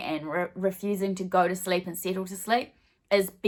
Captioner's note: none